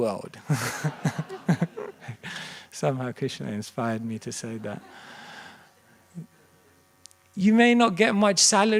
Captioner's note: laughter